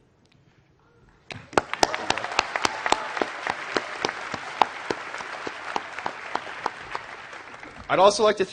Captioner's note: applause